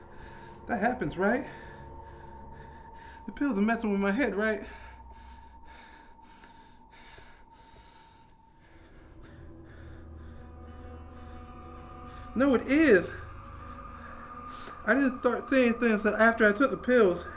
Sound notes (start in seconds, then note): none